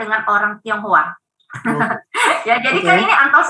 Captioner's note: laughing